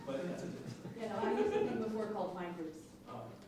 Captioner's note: laughing